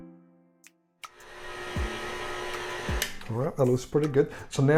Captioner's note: blender whizzing